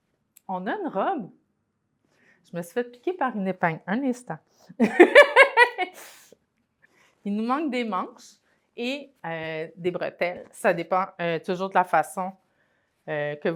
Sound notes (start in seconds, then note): 4.9 laughs